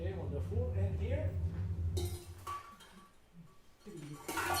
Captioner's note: clanking noise